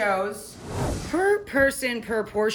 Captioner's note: whoosh